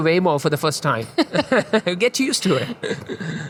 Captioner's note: both laughing